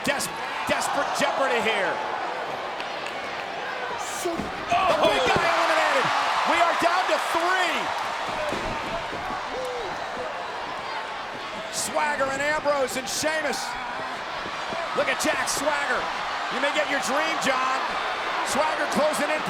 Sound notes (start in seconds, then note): 5.4 applause